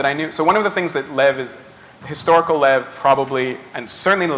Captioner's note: none